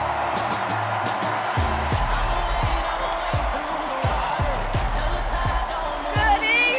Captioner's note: cheers and applause